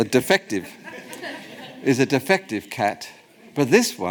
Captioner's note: audience laughs